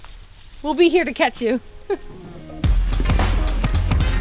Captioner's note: lively music; giggles